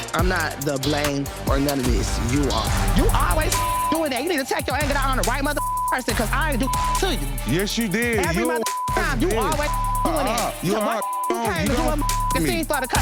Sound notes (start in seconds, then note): 3.0 beep